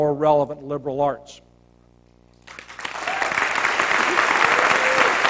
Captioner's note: applause